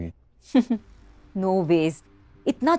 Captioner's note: Komal chuckles